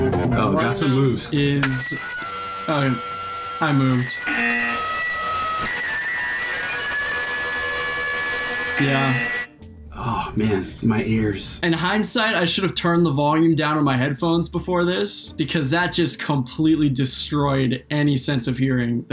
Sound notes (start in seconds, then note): 0.0 upbeat music; 4.2 buzzer; 4.2 screeching noise; 7.7 buzzer